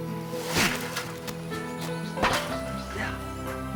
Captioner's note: groans